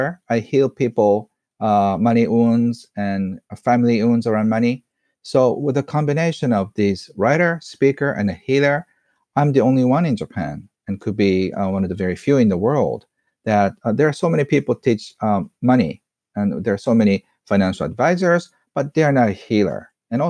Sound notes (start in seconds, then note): none